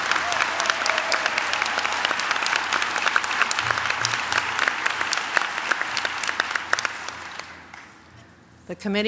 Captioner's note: applause